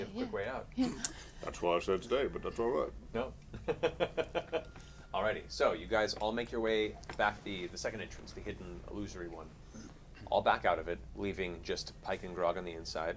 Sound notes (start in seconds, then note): 3.6 laughs